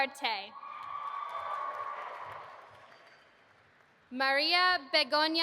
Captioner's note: audience applauding